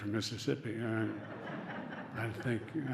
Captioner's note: laughter